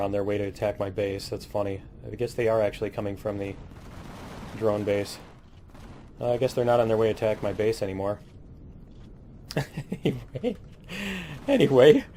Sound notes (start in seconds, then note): 3.1 cannon fire; 9.5 laughs